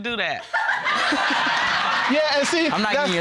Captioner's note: all laughing